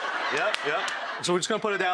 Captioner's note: audience laughing